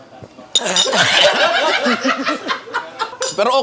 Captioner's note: chokes; laughter